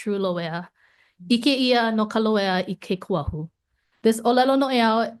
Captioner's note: speaks Hawaiian